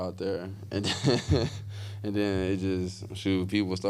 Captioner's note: laughs